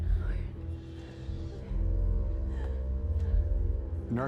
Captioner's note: women crying and pleading